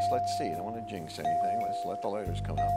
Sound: pinging sounding

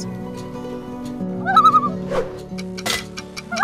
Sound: loon call; loon call

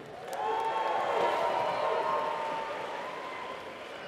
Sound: applause

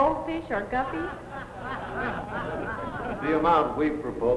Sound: audience laughs

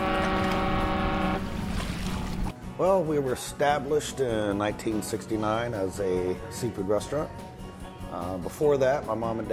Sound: fog horn

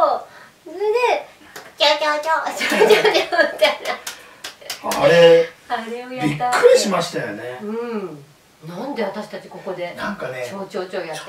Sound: laughs

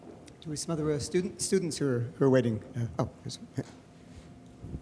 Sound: male Voice

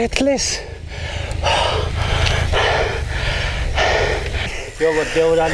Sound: deep Breathing

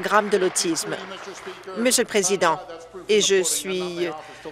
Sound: applause

